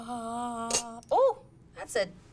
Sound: utensil clatters

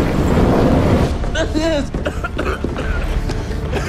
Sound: coughing, wheezing

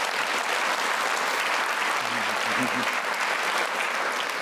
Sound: applause

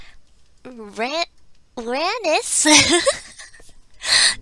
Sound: laughs

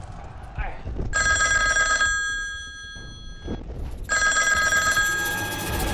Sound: ringing

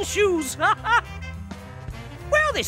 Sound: laughing

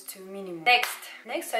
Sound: clap

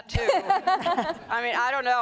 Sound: laughing

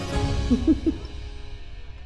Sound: both laughing

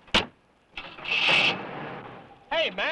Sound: car starting

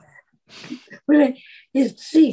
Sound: both laugh

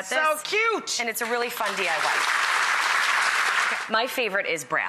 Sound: applause

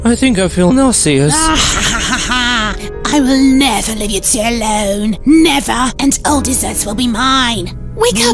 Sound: sinister laugh

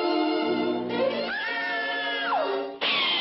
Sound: screams

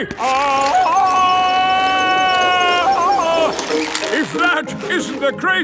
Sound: yelling

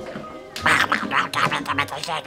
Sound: Gremlin chatter

